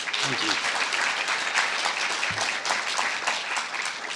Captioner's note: applause